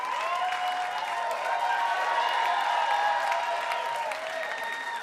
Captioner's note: audience continues cheering